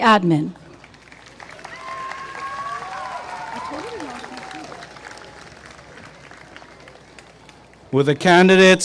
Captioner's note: applause and cheering